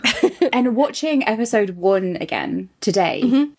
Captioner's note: laughs